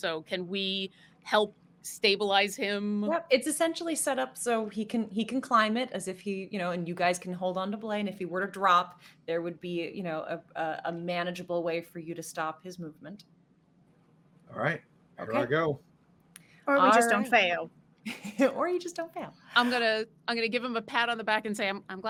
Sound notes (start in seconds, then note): 18.0 laughing